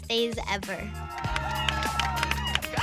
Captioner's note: cheering